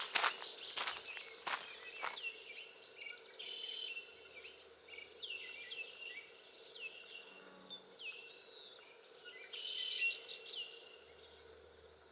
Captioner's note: birds chirping and other nature sounds